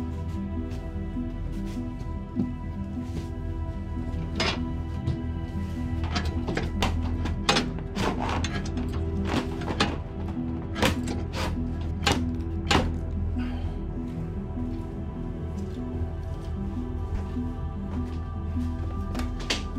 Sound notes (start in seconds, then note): 6.0 hatch clanking; 8.8 soft celestial music continues